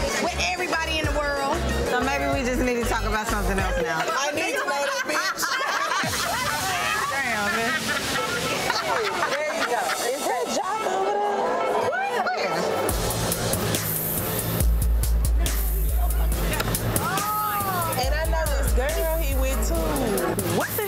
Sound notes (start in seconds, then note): 6.2 group laughing; 12.7 dramatic music